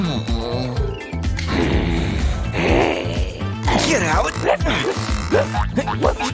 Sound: groans; barks; roaring; snoring

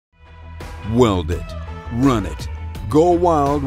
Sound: voiceover

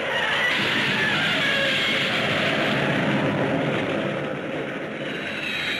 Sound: Gammera screeching; explosions booming; planes roaring

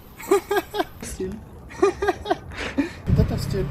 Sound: chuckles

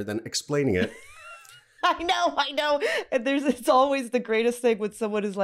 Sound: laughing

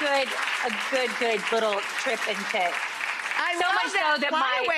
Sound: audience continues clapping

